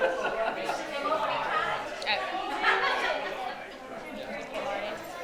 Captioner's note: attendees chatter